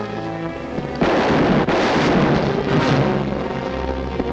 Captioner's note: gun firing; tense music